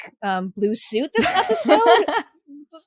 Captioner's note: laughs